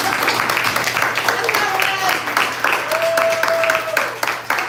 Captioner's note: applause